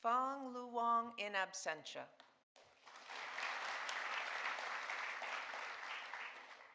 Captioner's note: audience applauding